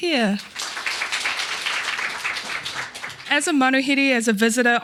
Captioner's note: audience applauding